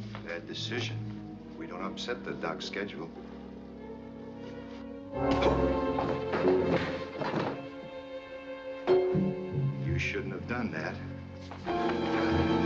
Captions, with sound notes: Bad decision. We don't upset the doc's schedule. [Grunts] [ Body Thuds On Floor] You shouldn't have done that.